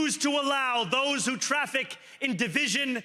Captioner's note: cheering